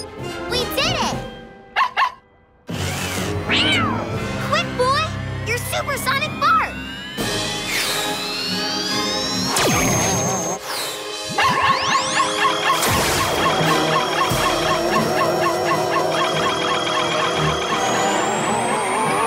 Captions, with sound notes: We did it! [barking] [meowing] Quick boy, your supersonic bark! [barking]